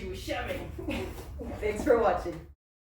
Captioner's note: chuckles